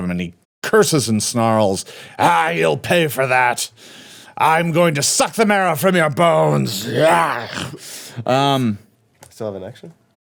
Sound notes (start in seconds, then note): 6.4 snarls